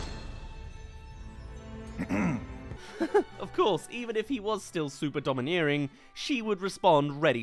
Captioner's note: clear throat